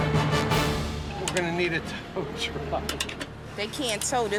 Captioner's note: laughing